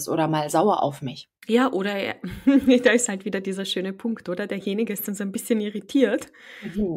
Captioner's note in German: lacht